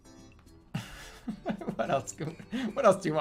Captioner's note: laughing